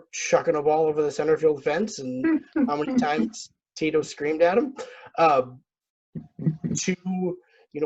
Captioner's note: laughs